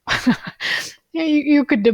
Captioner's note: laughing